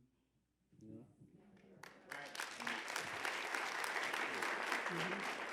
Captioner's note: applause